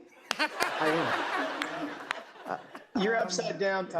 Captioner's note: laughter